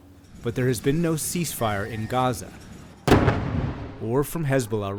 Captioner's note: voice-over